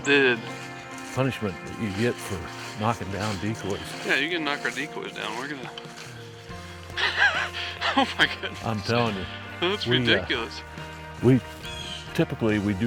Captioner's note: laughs